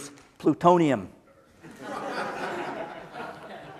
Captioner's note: laughter